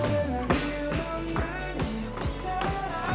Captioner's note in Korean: 점점 거세지는 발 박자